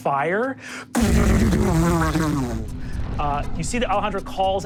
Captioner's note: fire crackling